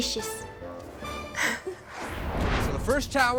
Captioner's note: chuckles